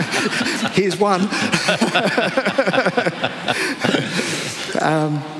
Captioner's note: laughter